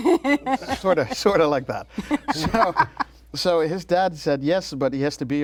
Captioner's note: laughter